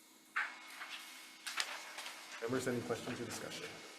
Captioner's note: papers shuffling